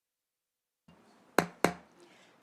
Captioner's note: gavel hitting dais